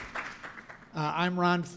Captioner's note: applause